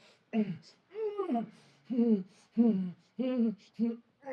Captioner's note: Solent groaning